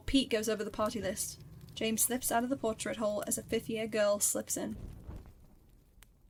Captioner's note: fire fades out